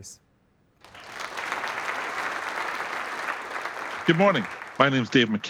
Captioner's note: applause